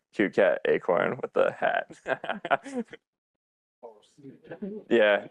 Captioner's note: laughs